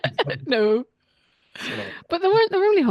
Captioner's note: laughs